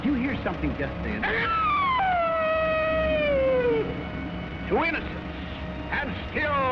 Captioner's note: screeches